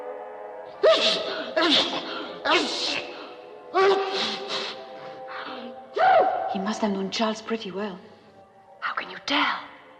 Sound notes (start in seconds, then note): 0.8 sneezing